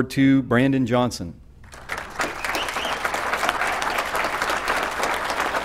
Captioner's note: applause